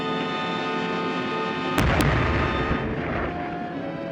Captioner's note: loud explosion; fast-paced music